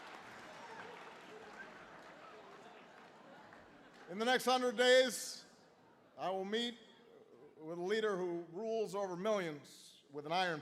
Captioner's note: laughter